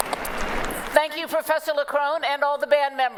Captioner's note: applause